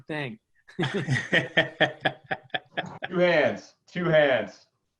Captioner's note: laughs